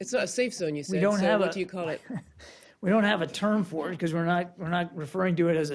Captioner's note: laughter